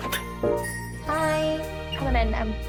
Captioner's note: door opens